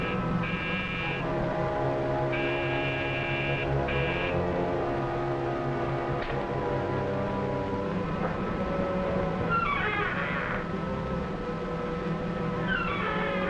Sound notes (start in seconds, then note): 5.3 dramatic orchestral music; 9.4 door creaks